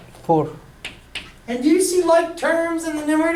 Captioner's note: voiceover